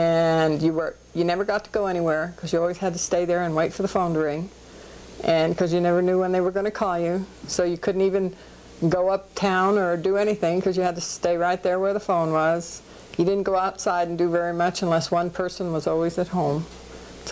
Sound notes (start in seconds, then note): none